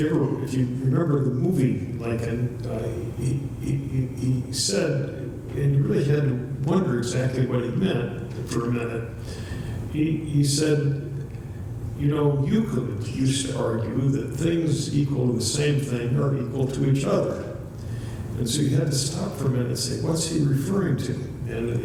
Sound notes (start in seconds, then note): 3.4 stutters